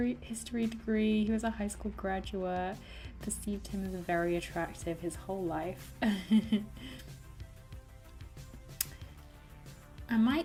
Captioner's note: laughs